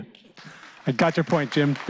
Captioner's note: applause